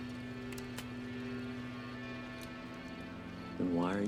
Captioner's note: trigger clicks